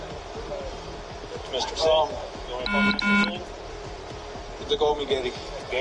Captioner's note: electronic beeps